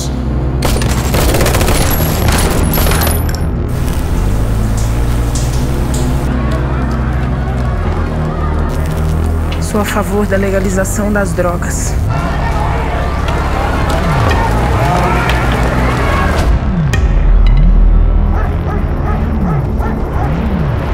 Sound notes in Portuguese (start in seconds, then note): 0.6 Som de tiros; 12.0 Som de espancamento; 18.2 Latidos de cachorros